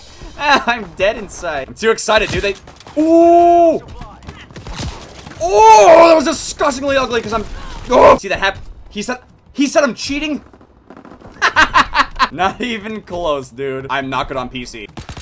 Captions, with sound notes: I'm dead inside. Im too excited. They oh, oh I was disgustingly ugly cuz I'm( caveman noise ) .See that happ- he said, he said I'm cheating Not even close dude, I'm not good on PC Oh